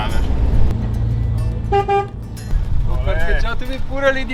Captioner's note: honking